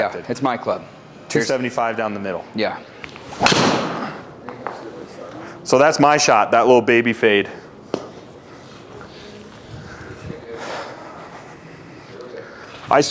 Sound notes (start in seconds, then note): 3.0 club swishing and clicking; 3.0 impact of ball thudding; 4.8 mumbling